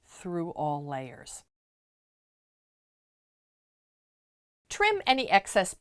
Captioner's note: no Sound Present